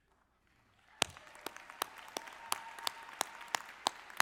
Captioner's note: audience clapping